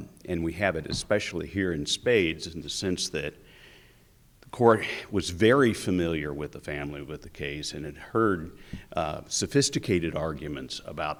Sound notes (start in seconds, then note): none